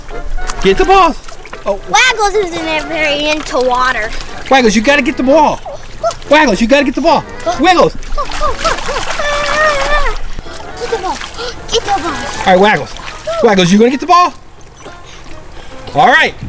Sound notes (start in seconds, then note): 8.6 water splashing